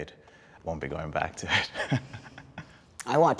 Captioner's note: laughs